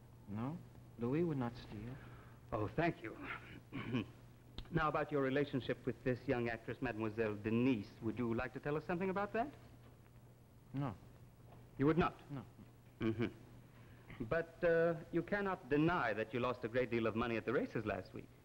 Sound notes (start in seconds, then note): 3.2 D'Arnault, clearing throat